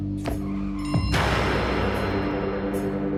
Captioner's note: loud crash